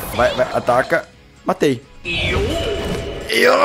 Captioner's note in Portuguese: som do jogo